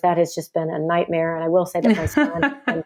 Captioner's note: laughs